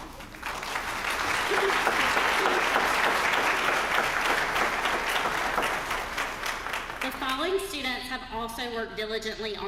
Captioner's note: applause